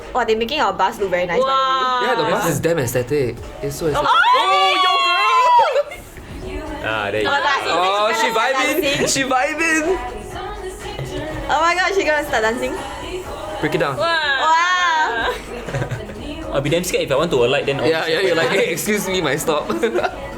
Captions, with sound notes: - Wah they are making our bus look damn nice. - Wah! Yeah the bus is damn aesthetic! *FANGIRLING* - Ah there you are! - She vibing! She vibing~ Oh my God is she going to start dancing? - Break it down! - Wah! - I'll be damn scared if I want to alight. - Yeah excuse me! My stop~